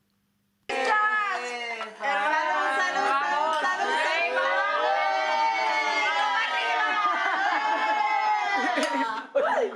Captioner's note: shouts of celebration